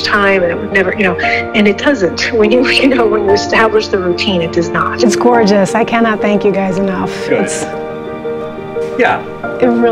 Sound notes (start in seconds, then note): 3.0 chuckles